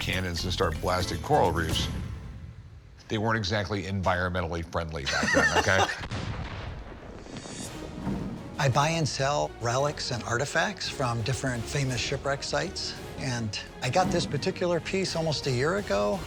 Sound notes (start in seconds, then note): 5.0 laughs; 5.9 explosion